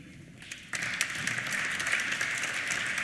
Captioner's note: applause